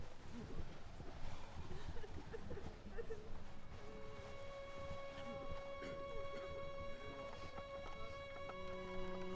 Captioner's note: wind, coughing, and sobbing